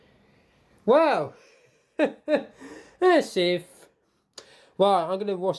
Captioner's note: chuckles